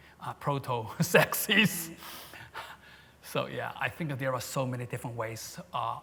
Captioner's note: laughs